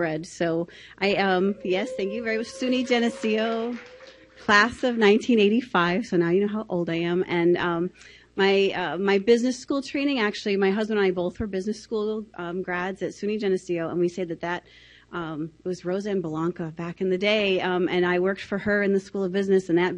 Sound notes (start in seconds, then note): 1.6 audience applauding